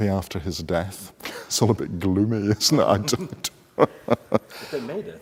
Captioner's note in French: rires